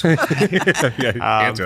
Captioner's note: laughter